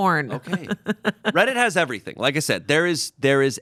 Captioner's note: laughs